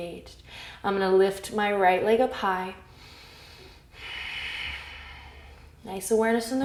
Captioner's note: deep breath